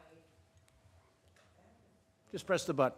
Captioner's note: off-mic